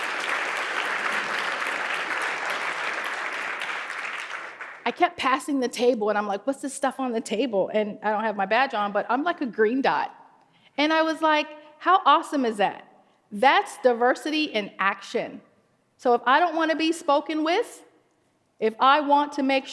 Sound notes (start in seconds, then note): 2.7 applause